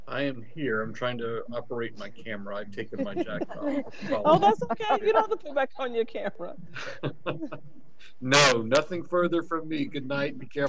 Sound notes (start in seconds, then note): 5.5 members laughing; 6.7 laughs